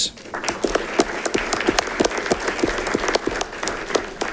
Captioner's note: audience clapping